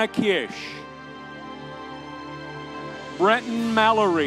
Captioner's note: audience cheering